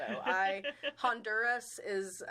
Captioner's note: chuckling